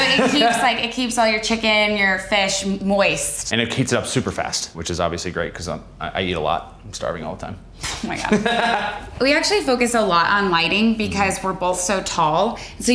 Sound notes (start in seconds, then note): 8.2 Justin laughing